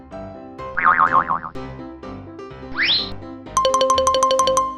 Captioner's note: boinging; alternating high-pitched piano keys